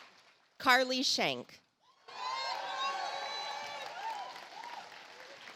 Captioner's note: audience applauds